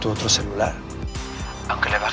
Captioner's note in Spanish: Suena un celular